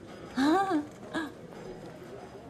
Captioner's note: chuckling